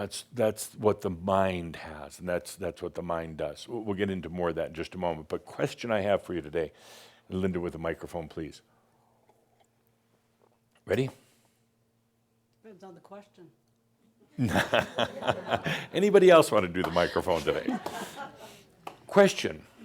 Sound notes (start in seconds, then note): 14.3 laughter; 14.3 chuckling; 14.3 more chuckles